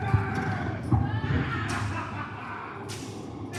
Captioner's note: Blackbeard laughing